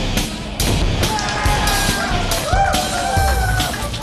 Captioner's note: cheering